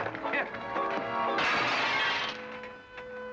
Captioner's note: glass crunching